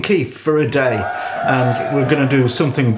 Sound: cheering

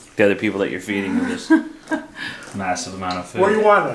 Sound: laughing

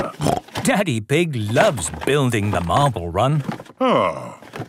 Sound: snorting

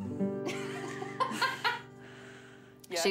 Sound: laughs

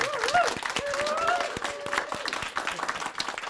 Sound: applause

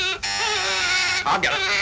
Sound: buzzer beeping

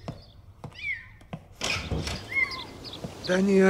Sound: cat meaowing

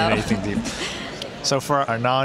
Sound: laughing

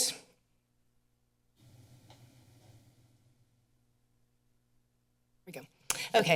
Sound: pause

